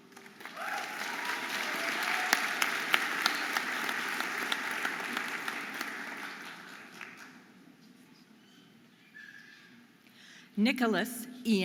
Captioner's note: audience applauding and cheering